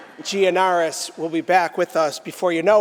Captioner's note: laughter